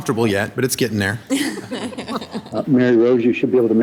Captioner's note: audience laughs